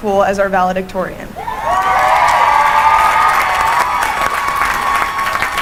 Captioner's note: cheering and applause